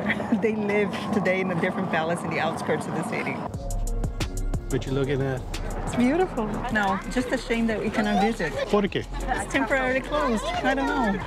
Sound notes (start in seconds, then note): 8.8 in Portuguese